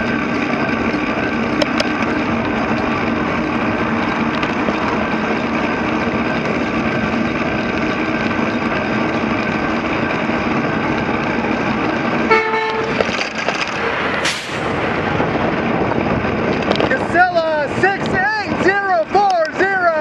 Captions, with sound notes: [HONK HONK] Casella "68040"